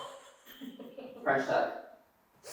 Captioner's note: women laughing